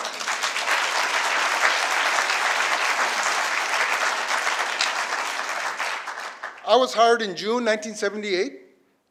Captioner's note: applause